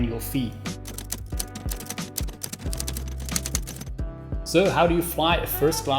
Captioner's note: keys clacking